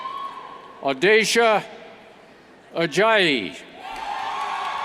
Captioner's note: cheers